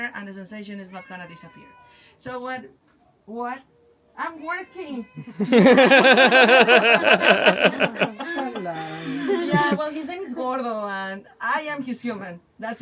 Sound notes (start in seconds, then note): 0.9 cat meows; 5.4 all laughing